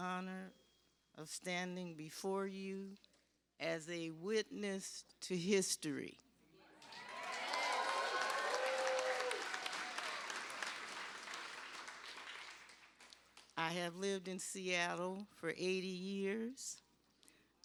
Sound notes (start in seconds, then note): 10.7 cheers and applause